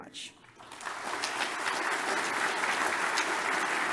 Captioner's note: audience applause